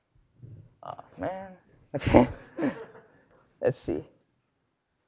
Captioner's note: laugh